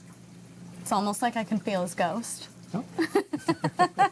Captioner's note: laughs